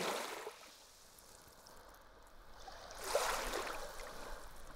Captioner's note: water lapping on shore